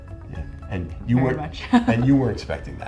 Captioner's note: laughs